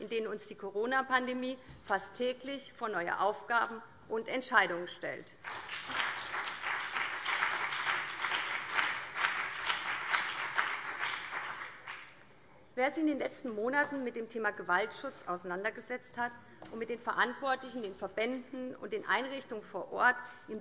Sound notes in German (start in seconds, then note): 5.4 Beifall BÜNDNIS 90/DIE GRÜNEN und CDU